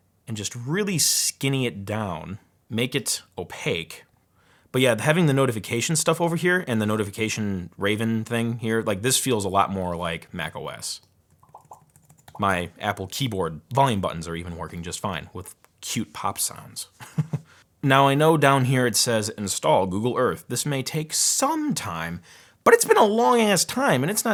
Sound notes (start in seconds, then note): 11.3 keyboard popping